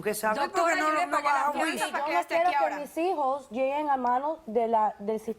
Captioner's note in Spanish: Hablan al unísono